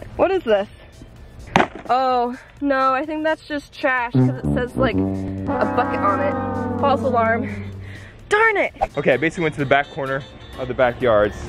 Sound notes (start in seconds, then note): 1.6 thunks; 4.1 sad horn music